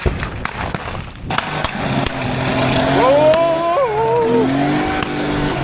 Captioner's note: sound of gunshots; engine revving